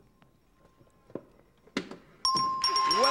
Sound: bell pings

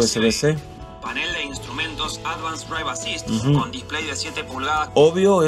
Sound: man speaking in Spanish

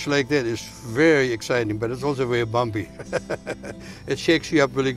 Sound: laughs

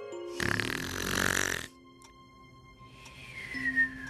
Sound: snoring

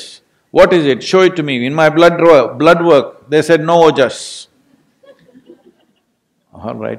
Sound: laughter

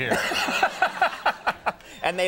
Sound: Conan laughs

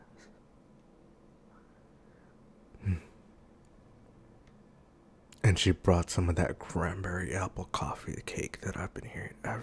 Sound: faint sniffing noises

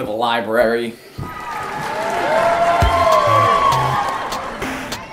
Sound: crowd cheering

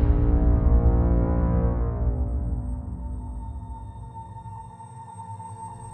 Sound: electrical buzzing; soft, fading whooshing

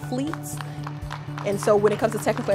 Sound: crowd applauding

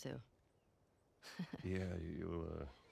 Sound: laughs

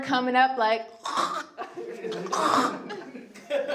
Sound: spitting and gagging noises

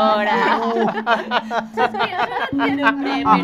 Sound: laughter

